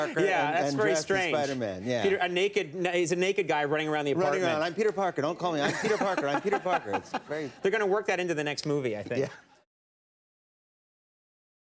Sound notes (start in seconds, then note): 5.6 Conan laughing